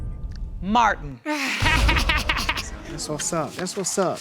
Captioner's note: laughing